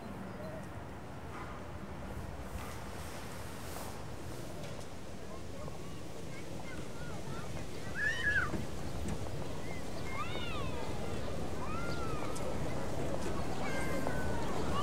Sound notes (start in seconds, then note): 6.2 footsteps, children playing